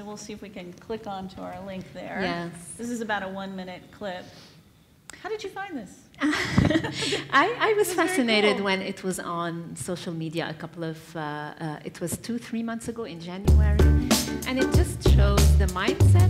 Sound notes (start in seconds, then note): 6.2 laughs